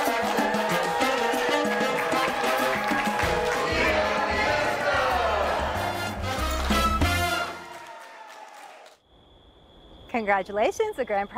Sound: cheering and laughing

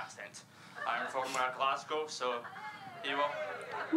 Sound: cheering

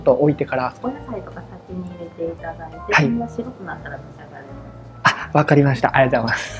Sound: speaks in japanese; waitress speaks in japanese

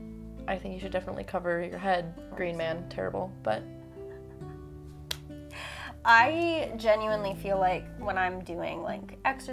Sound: laughs

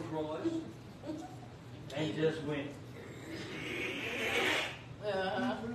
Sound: scratching

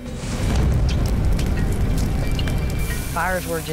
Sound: crackling

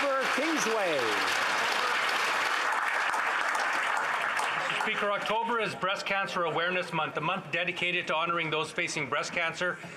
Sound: applause

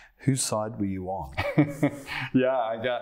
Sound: laughter

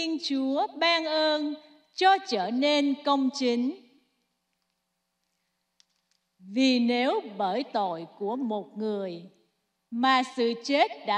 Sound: speaking non-english

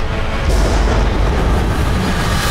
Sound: thunder

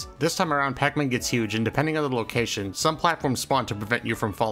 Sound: none

